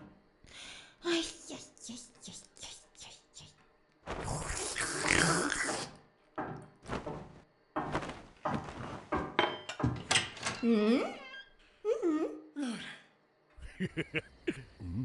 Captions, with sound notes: - Ay yi, yi, yi, yi. (slurps) (footsteps approaching) - [Voiceover] Hmm? Uh hmm. (sighs)